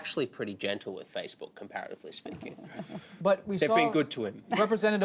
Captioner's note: laughter